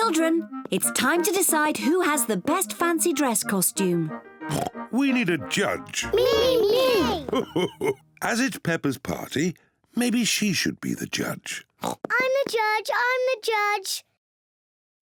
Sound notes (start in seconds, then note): 4.4 oinks; 6.1 laughs; 11.8 oinks